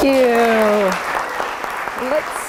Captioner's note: applause